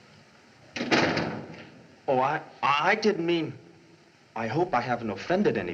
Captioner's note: door Closes